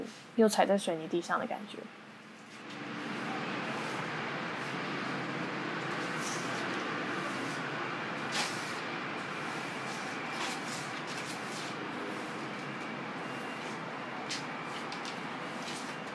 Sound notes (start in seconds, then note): 3.3 air whirring; 6.0 girl sweeping